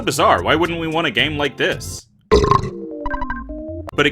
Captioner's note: burp!